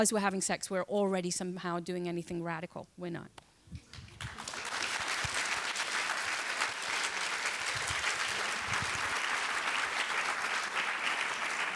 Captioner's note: applause